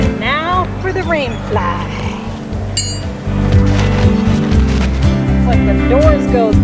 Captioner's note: clink